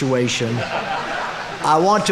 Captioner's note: audience laughing